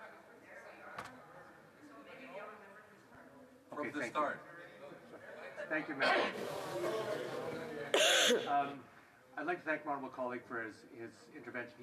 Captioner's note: off mic